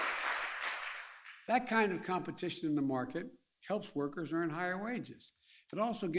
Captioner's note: applause